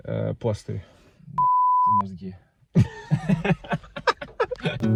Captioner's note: laughing